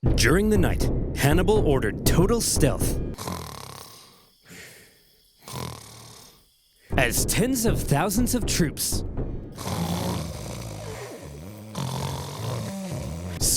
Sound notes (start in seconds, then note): 3.1 Flaminius snoring; 9.5 roman soldiers snoring